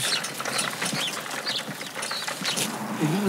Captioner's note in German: Vogelgezwitscher